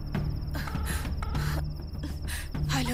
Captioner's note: Line ringing